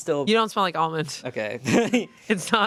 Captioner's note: laughs